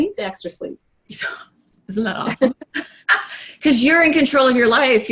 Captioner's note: laughing